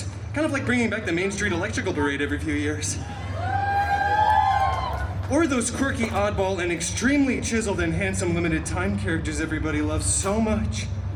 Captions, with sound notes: Kind of like bringing back the Main Street Electrical Parade every few years. [guests cheering] Or those quirky oddball and extremely chiseled and handsome limited-time characters everybody loves so much.